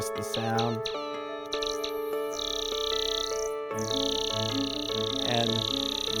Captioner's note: laser gun buzzing